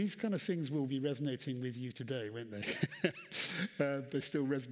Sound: laughs

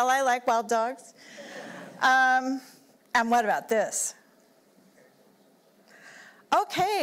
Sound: laughter

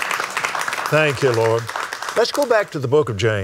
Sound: applauds

